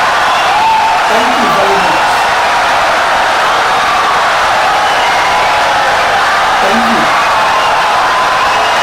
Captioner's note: wild applause and cheering for 17 seconds